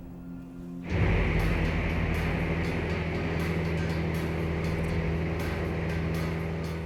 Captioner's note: suspenseful music; motor whirring